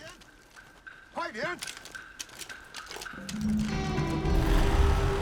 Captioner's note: speaking mandarin